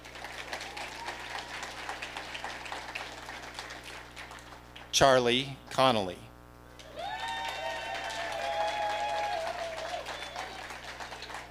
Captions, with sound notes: (audience applauding) Charlie Connally. (audience cheering)